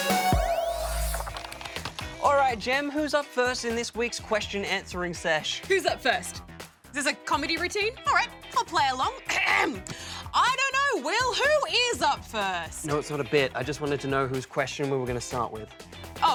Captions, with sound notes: Alright, Gem, who's up first in this week's question answering sesh? Who's up first? Is this a comedy routine? Alright, I'll play along. (CLEARS THROAT) I don't know, Will. Who is up first? No, it's not a bit. I just wanted to know whose question we were gonna start with.